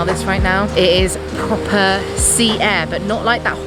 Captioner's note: waves crashing